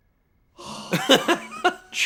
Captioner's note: sigh